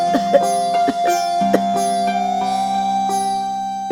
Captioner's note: coughs